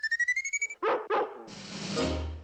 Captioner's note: barking